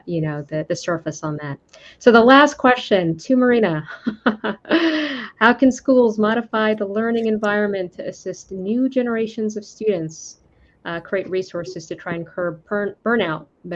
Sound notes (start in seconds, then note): 4.5 laughs